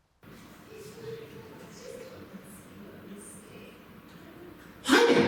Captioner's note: chatter